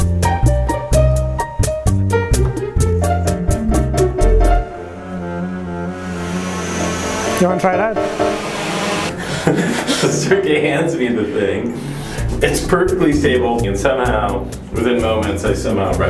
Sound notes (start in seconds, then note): 9.1 laughing